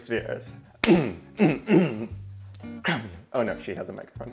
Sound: grunting

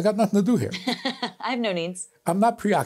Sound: laughs

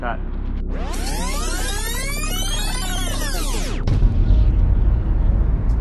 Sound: audio rewind screeching

